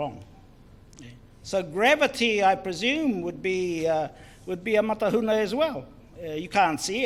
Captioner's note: foreign Language